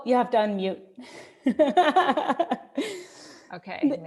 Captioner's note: laughs